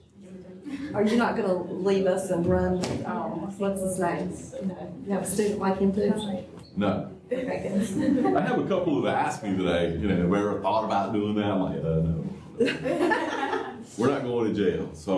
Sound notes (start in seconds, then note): 7.4 laughter; 10.1 laughter